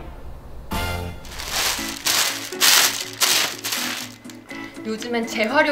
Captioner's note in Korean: 바스락 소리